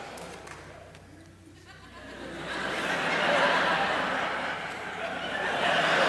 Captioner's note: laughter